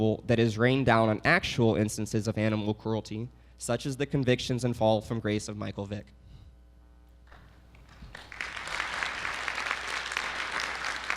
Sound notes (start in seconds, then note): 7.7 audience applauding